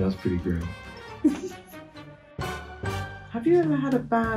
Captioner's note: laughs